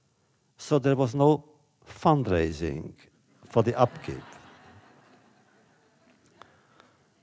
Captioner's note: laughter